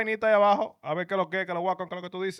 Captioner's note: speaking In Foreign Language